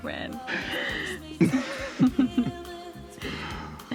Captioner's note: both laughing; gentle upbeat music